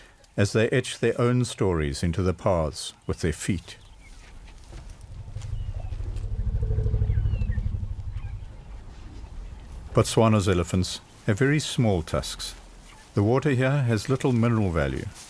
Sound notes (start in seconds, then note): 4.6 rumbling